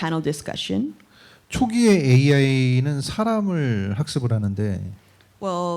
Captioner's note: speaking korean